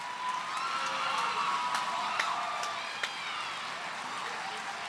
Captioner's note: cheers and applause